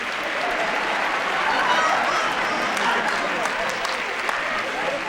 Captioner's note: audience laughing